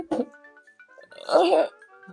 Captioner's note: weird mouth noises; cries silently